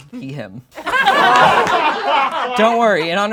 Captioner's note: laughing